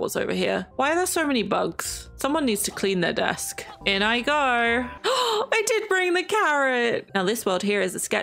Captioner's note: gasps